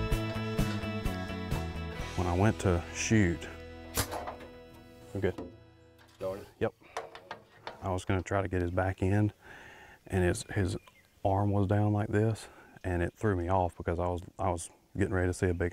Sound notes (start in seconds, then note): 4.0 metal rattling